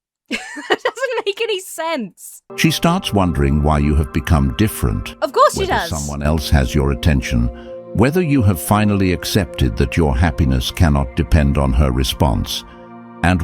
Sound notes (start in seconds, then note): 0.3 laughs incredulously; 2.6 AI Voice